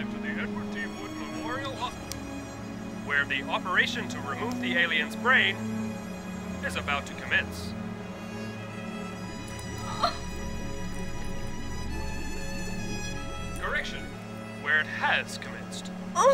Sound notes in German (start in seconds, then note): 9.0 dramatische Orchestermusik; 9.8 Weinen